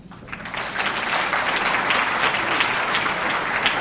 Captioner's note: audience clapping